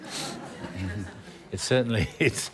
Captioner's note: laughter